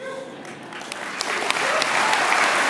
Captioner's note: applause